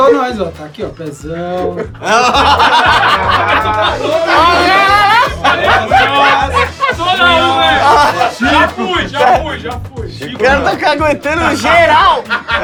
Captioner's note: risos